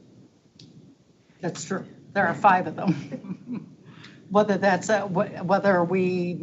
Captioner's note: chuckles